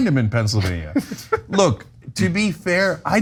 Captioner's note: laugh